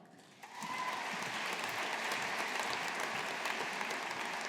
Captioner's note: audience applauding